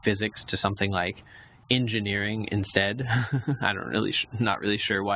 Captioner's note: laughs